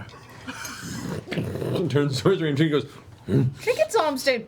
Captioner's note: bear grunting